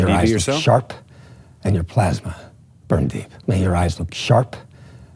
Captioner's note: movie dialogue plays